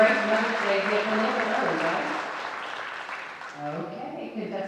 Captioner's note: speech drowned out by audience applause